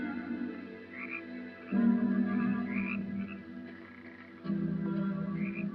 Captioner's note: frogs croaking; suspenseful music